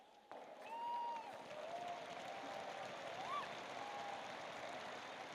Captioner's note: audience cheering and applauding